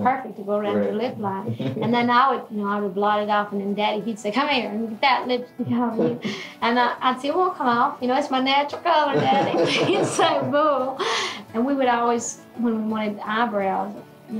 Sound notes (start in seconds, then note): 9.1 laughing